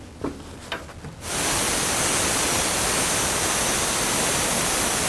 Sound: machine whirring

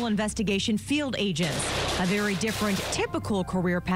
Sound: gunfire

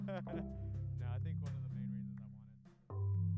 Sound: laughs

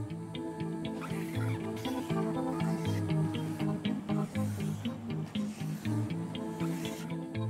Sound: marker squeaks on whiteboard

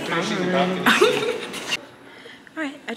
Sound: laugh

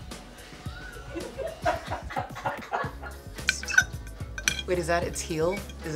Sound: people offscreen laughing

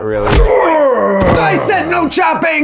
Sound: Writer's Block grunts

